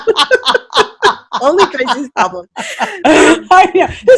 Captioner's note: laughing